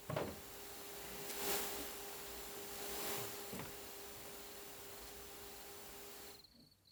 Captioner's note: microphone hissing